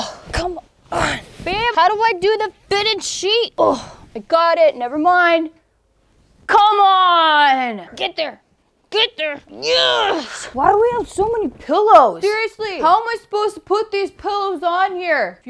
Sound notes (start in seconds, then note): none